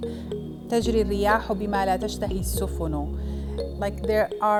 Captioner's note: speaks arabic